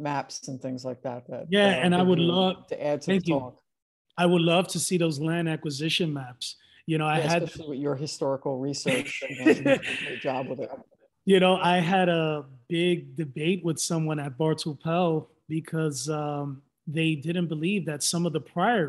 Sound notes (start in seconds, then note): 8.8 laughs